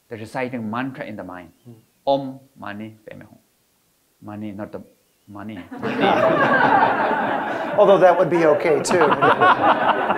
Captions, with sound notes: the reciting mantra in the mind, om, mani then hum. Mani not money. (all laughing) - Although that would be okay too.